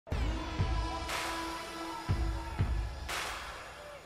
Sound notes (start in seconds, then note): 0.2 horn blaring